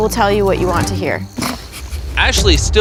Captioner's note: snickers